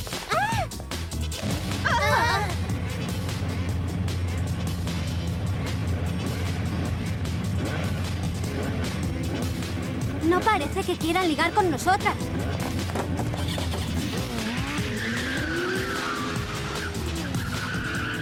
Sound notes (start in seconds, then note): 0.3 gasps; 3.0 engines revving; 14.9 tires squealing